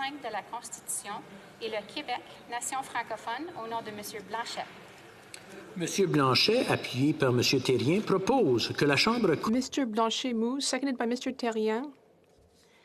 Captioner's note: speaking French